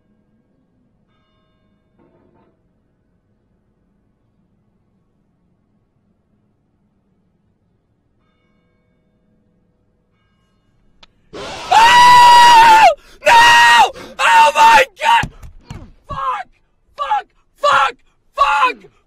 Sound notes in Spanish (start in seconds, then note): 11.2 gritando